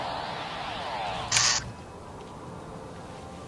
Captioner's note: humming stops